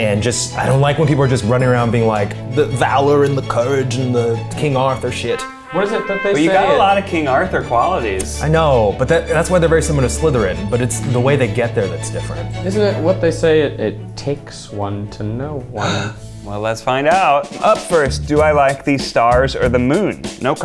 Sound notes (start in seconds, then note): 15.8 gasps